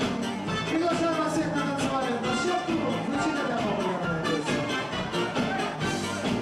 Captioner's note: festive music; singer speaks in foreign language